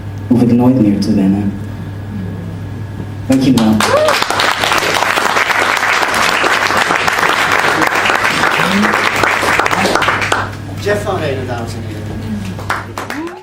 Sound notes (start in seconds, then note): 6.8 applause; 12.5 applause